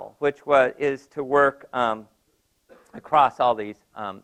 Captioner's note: cough